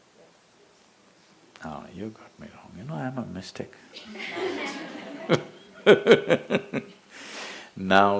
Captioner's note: laughter; 笑聲